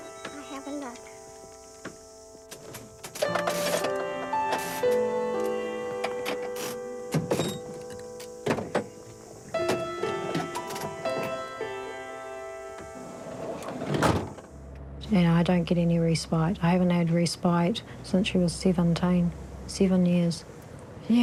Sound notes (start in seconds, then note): 3.4 ratchets clack, locks click; 6.0 poignant music